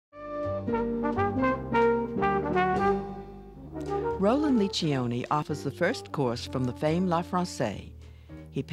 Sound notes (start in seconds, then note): 0.1 jazzy music; 4.6 voiceover